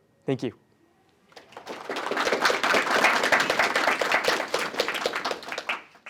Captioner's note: applause